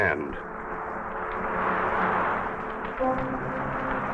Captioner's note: fire crackling; tense orchestral music